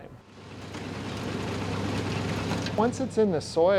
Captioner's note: tractor engine whirring